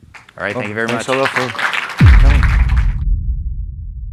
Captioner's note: applause